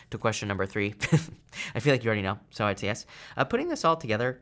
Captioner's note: chuckles